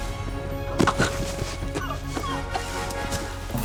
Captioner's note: coughing